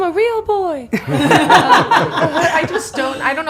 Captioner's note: all laughing